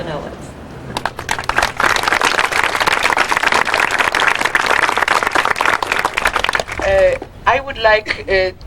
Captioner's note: applause